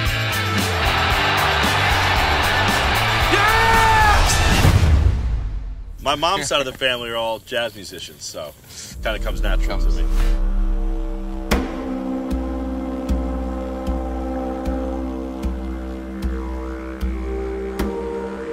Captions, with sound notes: (Crowd shouts) YES! My mom's side of the family are all jazz musicians, so kind of comes naturally.